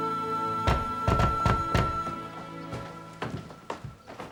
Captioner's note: knocking on door